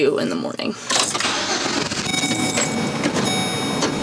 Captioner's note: car starting